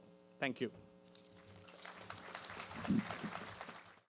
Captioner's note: applause